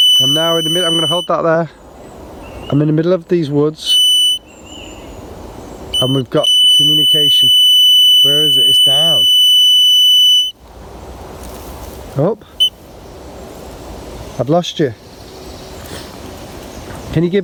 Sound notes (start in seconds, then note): 0.0 beeping; 4.0 beeping; 12.2 birds chirping; 12.7 beep; 15.8 birds chirping